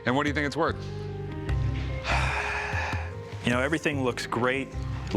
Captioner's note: sighs